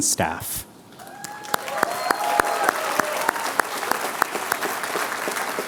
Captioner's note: applause